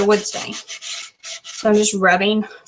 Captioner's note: light scratching